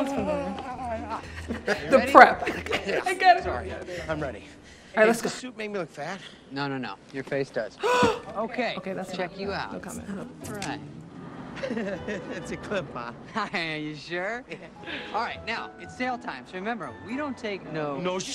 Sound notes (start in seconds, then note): 7.8 gasps